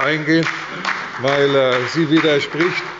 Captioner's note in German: Beifall bei der CDU, der SPD, dem BÜNDNIS 90/DIE GRÜNEN und der LINKEN